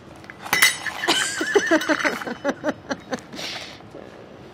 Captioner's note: laughs